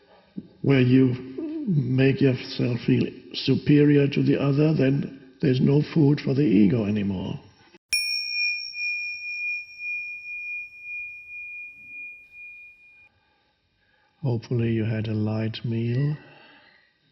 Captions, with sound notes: where you make yourself feel superior to the other, then there's no food for the ego anymore. (bell dings) Hopefully you had a light meal.